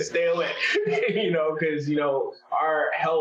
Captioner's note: laughs